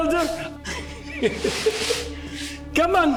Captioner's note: Siegmund laughing